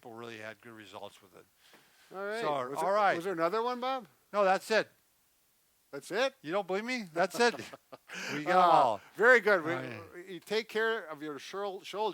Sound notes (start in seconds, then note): 7.2 laughs